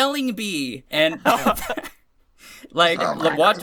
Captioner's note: laughter